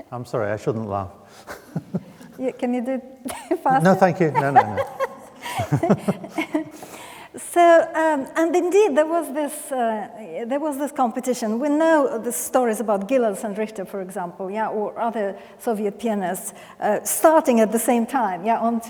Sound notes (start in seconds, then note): 1.4 laughs; 4.2 laughing